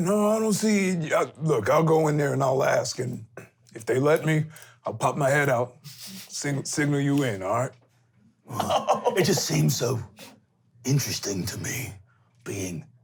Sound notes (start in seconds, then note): 8.5 laughing